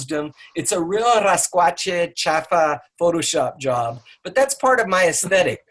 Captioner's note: speaking in a foreign language